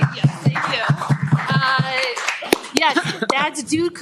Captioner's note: applause